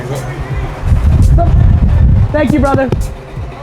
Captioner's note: man shouting from car